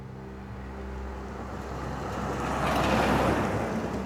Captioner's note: truck rumbling